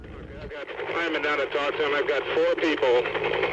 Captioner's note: radio Communication